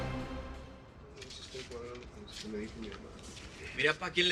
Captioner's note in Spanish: Habla entre dientes